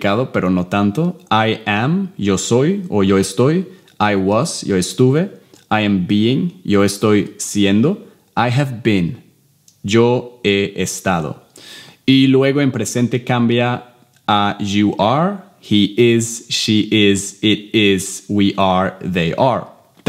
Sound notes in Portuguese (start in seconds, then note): 2.3 Inglês; 15.0 Inglês